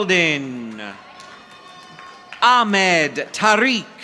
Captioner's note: audience applauding